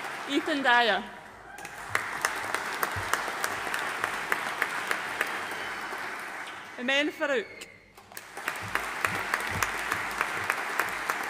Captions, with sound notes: Ethan Dyer. (AUDIENCE APPLAUDING) Imen Farooq. (AUDIENCE APPLAUDING)